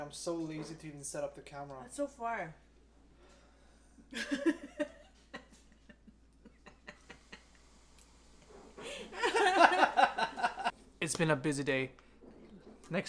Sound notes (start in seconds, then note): 4.2 laughs